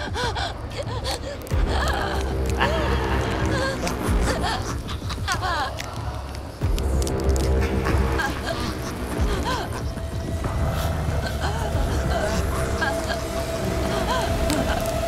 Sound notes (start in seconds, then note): 2.5 demonic Laughing